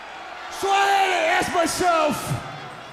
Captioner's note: crowd chatter